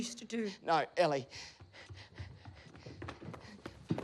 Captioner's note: running footsteps